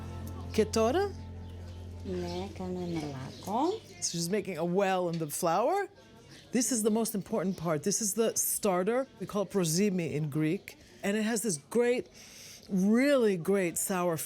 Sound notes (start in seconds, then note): 1.0 speaking greek